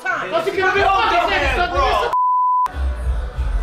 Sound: shouting over each other; beeps

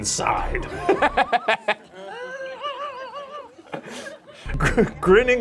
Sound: laughing

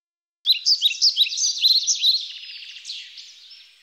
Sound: birds tweeting

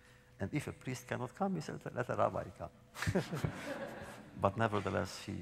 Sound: laughter

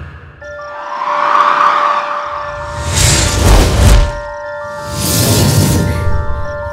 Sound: mysterious tense music; loud whooshing

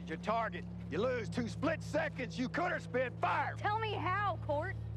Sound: yelling

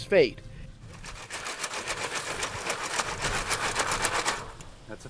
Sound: rocks shaking

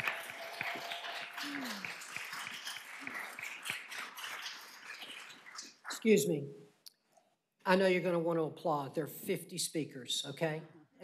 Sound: applause

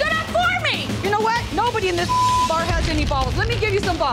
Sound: beep

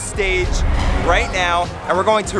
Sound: dramatic bang

